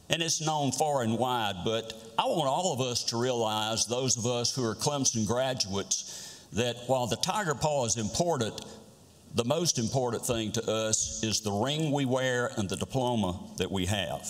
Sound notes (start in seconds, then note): none